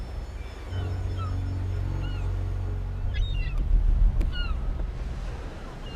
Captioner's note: low ominous music; gulls squawking continues